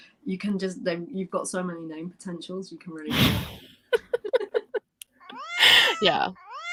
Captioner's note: laughter; miaow sound; laughter